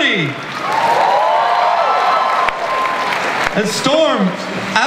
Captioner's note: audience cheers